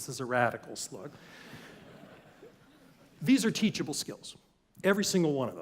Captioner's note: laugh